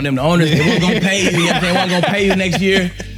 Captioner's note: laughing